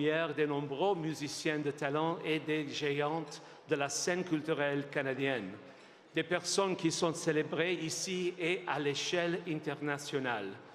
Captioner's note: speaking French